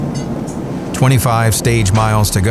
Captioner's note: garage clatter